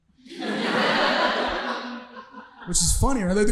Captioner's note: audience laughing